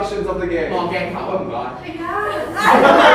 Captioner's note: in Cantonese; chuckles